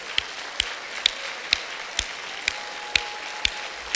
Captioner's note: clapping